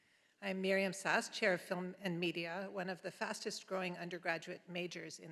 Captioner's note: none